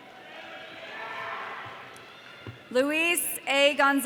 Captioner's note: audience cheering